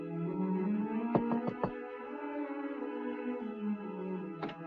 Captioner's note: knuckles rapping